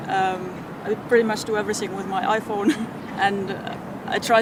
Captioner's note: laughs